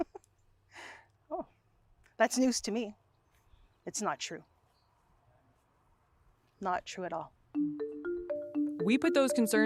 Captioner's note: laughter